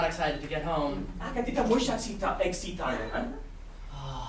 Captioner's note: speaking grammelot